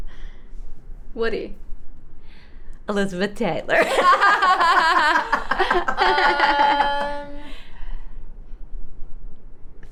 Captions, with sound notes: - Woody. - Elizabeth Taylor. (all laughing)